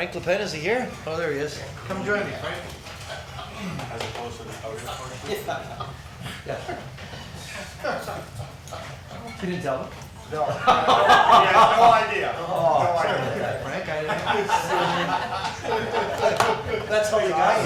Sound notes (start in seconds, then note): 8.2 laughs; 10.4 crowd laughing; 13.2 man drowned out by laughter